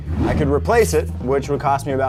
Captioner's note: air whooshing